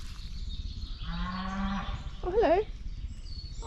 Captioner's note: moo!